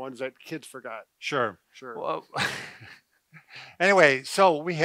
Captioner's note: chuckles